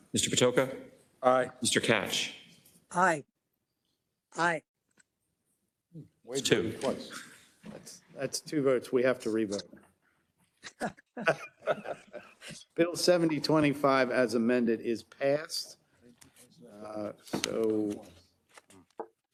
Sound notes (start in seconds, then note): 10.6 attendees laughing